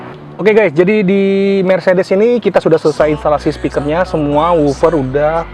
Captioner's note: speaking in foreign language